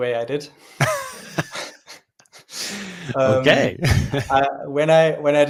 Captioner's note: laughter